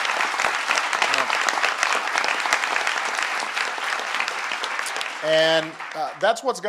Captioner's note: applause